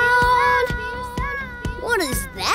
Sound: echoes

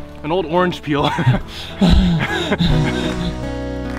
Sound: both laugh

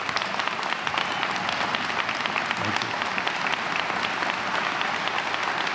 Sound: applause

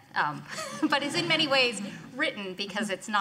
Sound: laughing

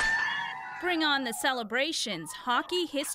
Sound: cheers and Applause

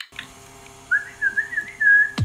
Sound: whistling; energizing music

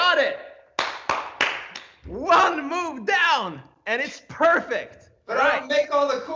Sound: applauding

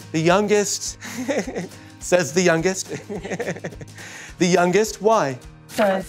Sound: laughter

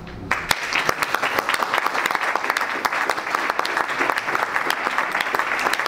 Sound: audience and panelists applaud

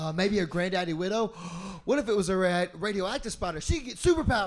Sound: gasp

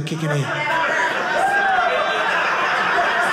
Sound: audience laughing

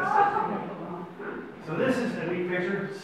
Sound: audience laughs

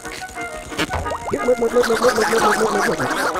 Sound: blubbering

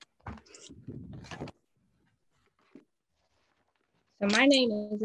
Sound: none

